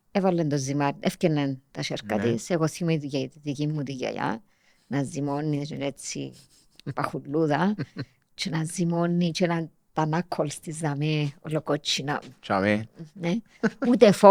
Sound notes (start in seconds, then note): 7.6 he laughs